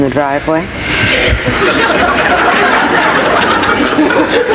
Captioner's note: audience laughs